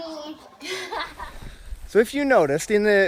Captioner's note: laughter